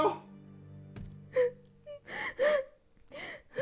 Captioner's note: crying